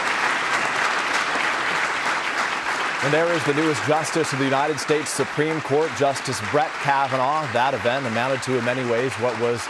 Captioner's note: applause